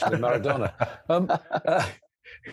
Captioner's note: laughs